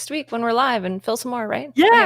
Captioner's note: laughs